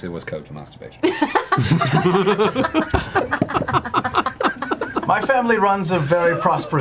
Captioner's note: all laugh